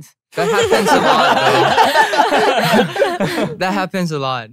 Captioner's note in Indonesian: tertawa